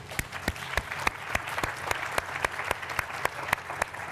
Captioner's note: applause